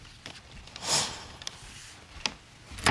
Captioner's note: sniffles